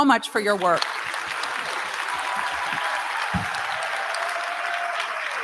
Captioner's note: applause